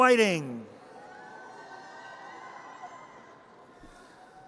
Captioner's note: audience cheers